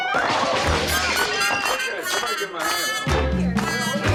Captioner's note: crash